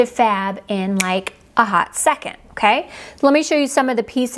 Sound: snaps fingers

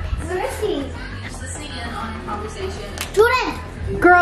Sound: panicked breathing; TV in background

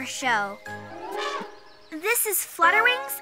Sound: elephant trumpets

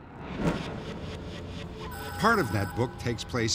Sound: beeping

